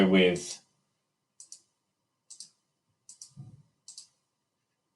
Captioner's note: mouse clicking